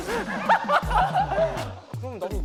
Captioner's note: laughing